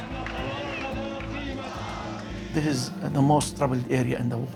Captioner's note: crowd chanting